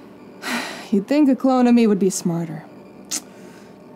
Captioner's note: sighs